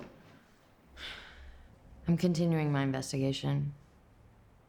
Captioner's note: sighs